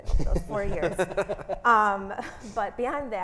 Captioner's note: all laughing